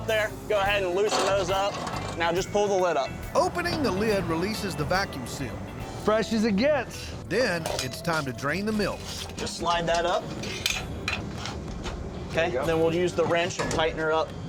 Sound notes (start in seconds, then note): 8.8 clanging sound